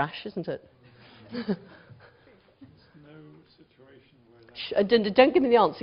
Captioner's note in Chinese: 無聲